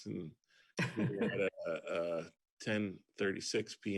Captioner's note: laughs